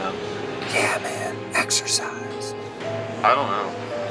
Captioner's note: ghostly Voice